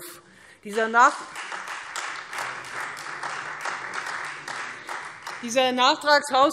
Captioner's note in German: Beifall Freie Demokraten